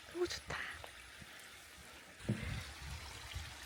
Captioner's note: sound of water